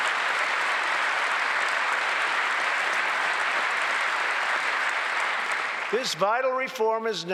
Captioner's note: applause